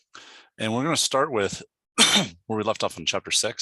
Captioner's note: coughs